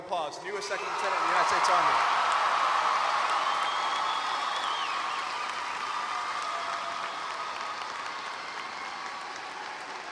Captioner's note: applause